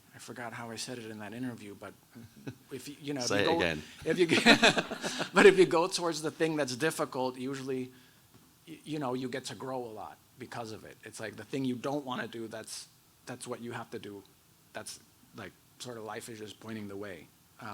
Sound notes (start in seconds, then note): 3.9 both laughing; 4.0 audience laughs